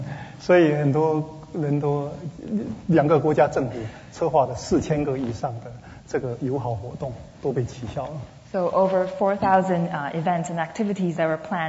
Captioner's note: speaking Mandarin